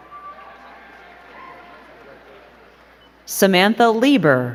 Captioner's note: crowd clapping